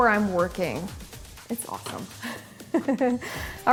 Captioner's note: laughs